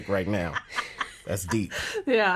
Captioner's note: laughing